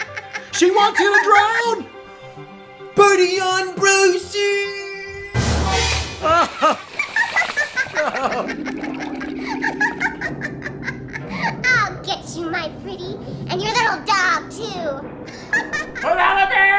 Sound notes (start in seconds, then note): 0.0 laughs; 6.2 laughs; 6.9 cries; 15.3 laughs